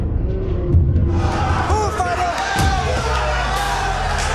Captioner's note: cheers and applause